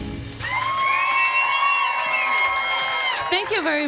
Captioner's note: audience applauding and cheering